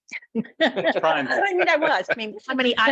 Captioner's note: group laughing